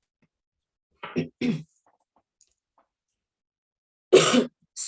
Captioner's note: clears throat